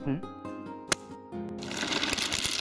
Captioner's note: click